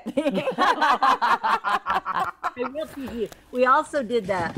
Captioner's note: group laughs